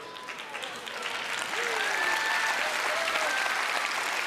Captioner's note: audience applauding